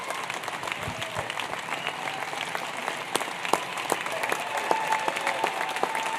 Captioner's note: applause